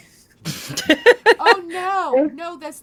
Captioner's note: laughing